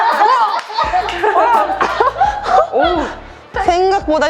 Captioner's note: laughter